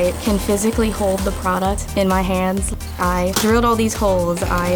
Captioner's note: electrical whirring